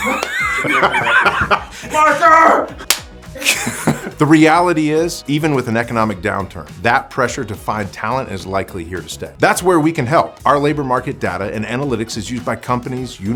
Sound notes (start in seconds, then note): 0.0 laughs